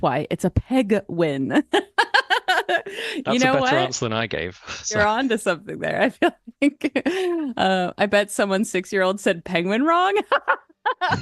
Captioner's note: laugh